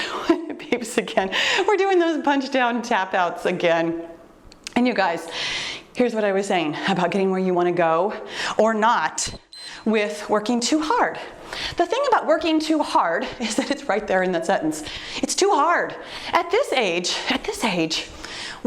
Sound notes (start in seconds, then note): 0.2 chuckles; 9.3 timer beeps